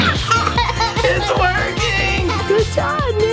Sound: laughing

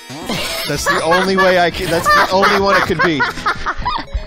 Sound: cackles

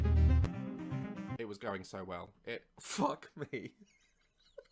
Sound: laughter

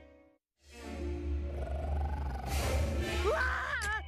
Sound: growling

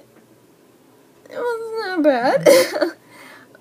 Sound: laughs

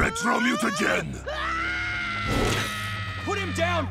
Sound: screaming

